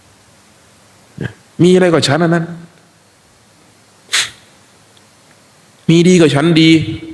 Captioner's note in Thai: เสียงสูดหายใจ